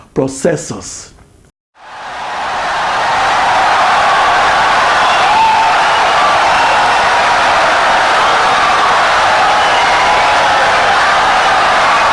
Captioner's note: wild applause and cheering for 17 seconds